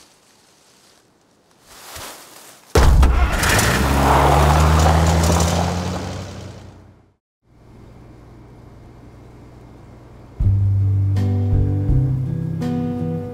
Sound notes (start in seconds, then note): 1.9 tree thudding; 2.8 truck engine rumbling; 10.4 gentle music